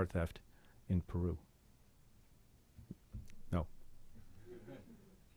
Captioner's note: chuckling